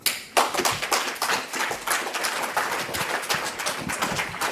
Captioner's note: audience applauding